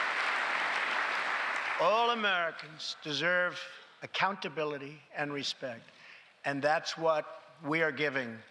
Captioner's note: applause